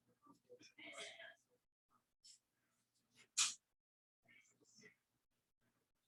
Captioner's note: people chattering indistinctly